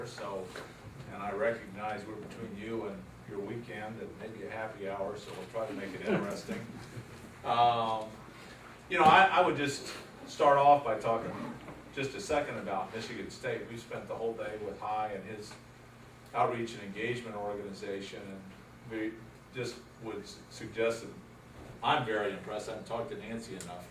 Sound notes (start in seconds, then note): 6.0 laughter